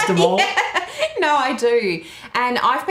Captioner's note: laughing